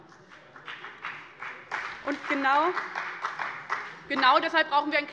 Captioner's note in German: Beifall bei dem BÜNDNIS 90/DIE GRÜNEN und der CDU